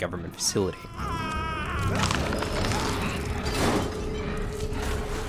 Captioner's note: monster growling